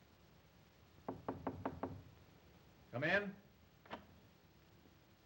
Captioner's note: knocking on door; door opens